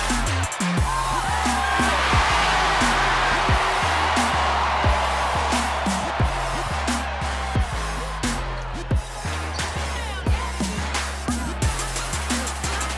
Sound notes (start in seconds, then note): 1.7 cheering; 9.2 energetic hip-hop music